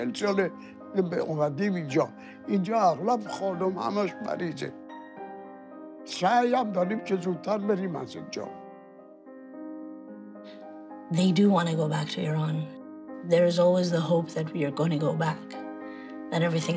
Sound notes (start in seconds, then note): 2.0 speaking foreign language